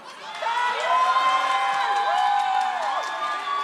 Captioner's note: audience applauds